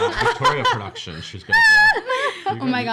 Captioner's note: laughing